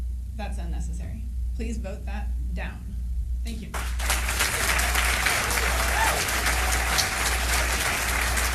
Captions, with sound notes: That's unnecessary. Please vote that down. Thank you [applause].